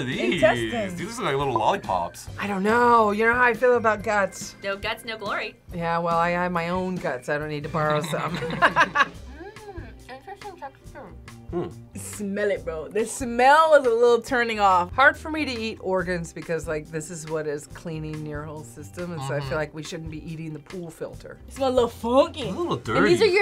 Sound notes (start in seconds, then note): 7.8 both laugh